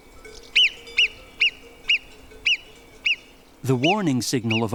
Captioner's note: squeaky calls